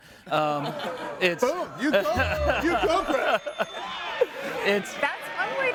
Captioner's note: audience laughing